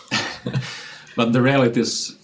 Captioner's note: laughing